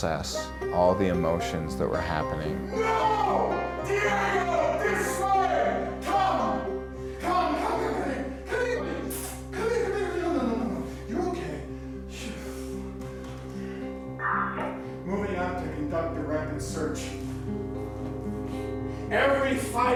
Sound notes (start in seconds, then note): 9.1 smooches; 13.9 sighs; 14.1 radio crackles